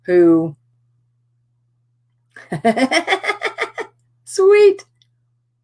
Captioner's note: laughter